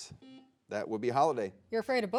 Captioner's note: buzzer dings